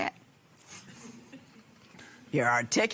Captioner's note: laughter